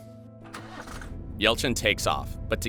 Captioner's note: car engine hums